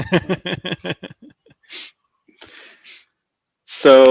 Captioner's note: speakers laughing